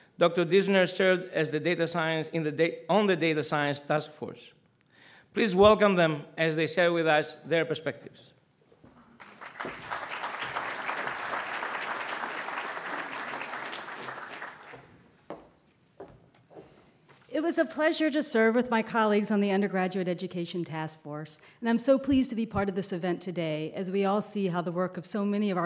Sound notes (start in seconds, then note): 11.2 audience applauds